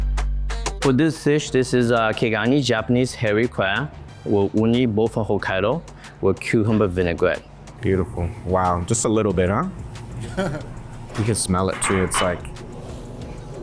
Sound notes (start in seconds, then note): 0.0 upbeat music; 10.2 laughs